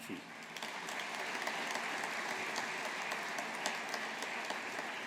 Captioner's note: audience applauding